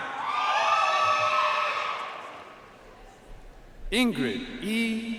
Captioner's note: audience cheering and applauding